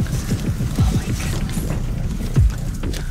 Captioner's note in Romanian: Rhoda șoptind